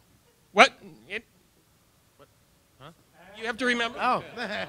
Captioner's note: audience response